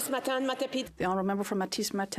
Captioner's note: speaking French